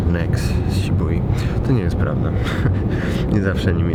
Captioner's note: chuckle